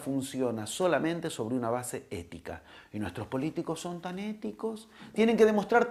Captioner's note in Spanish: con tono irónico